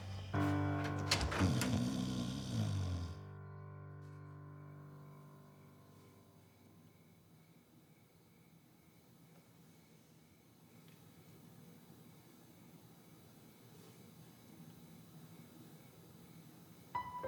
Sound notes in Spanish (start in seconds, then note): 3.7 Ronquidos